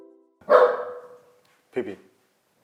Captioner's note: bark